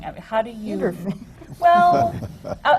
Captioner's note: laughter